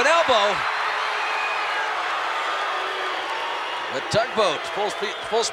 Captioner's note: applause